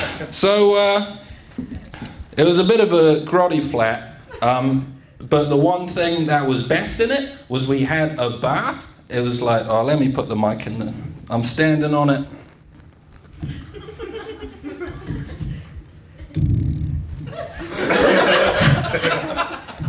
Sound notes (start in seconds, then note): 13.3 weird mic noises